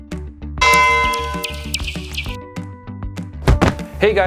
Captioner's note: bell chimes; birds tweet